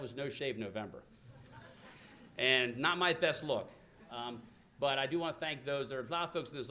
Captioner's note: laughter